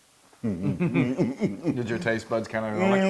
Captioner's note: laugh